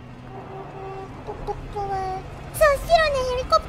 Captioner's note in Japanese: クラクション